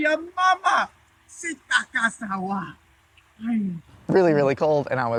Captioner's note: yelling in foreign language